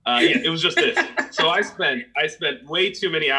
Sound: laughs

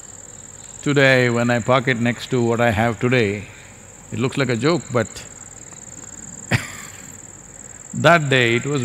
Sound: laughs

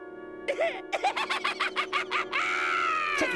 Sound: laughing

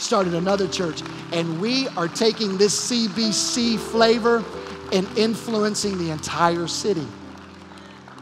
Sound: applause

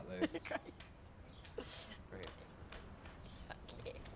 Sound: laughing

